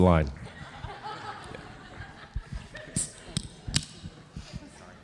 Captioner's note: audience laughing